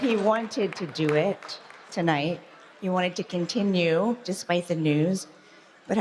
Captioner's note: applause